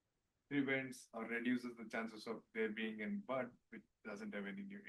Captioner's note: speaking faintly